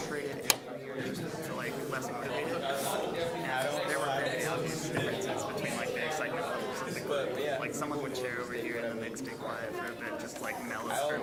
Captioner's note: general chatter